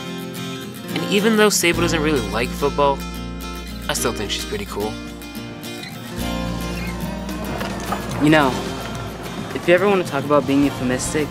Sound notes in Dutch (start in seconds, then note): 4.9 cheers